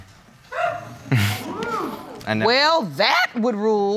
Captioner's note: laughs; audience exclaiming